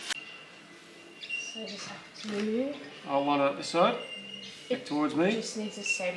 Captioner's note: indistinct chatter